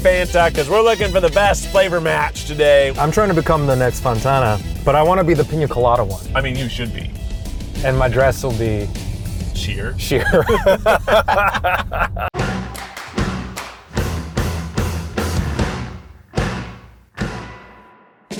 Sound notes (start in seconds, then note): 10.1 both laughing